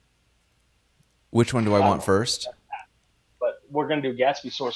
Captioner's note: audio speaker drowns out